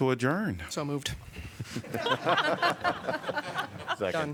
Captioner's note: laughter